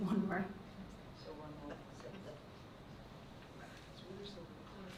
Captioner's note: board murmuring